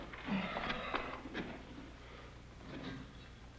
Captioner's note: Gilman sighs